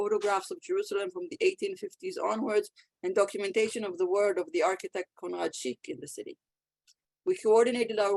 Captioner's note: Hebrew